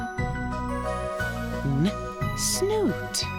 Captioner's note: making "n" sound